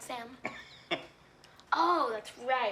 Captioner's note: Sam laughing